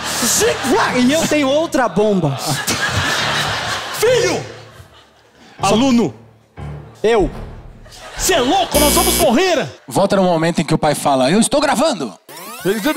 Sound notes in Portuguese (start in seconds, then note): 8.8 campainha; 12.3 fita rebobinando